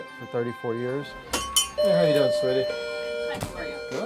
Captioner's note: doorbell rings